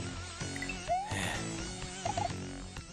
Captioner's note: sigh